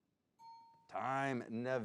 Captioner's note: bell dings